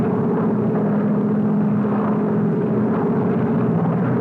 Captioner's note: engine turbine, skydiving aircraft; engine turbine sound airborne